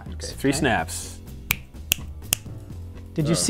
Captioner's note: snaps three times